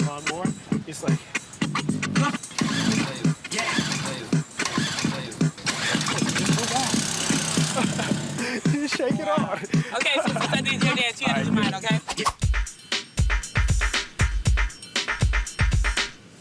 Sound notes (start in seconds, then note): 2.4 lawn mower engine; 8.7 laughs; 13.0 dance music